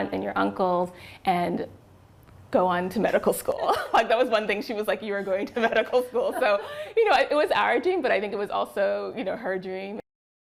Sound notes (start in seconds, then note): 3.4 laughter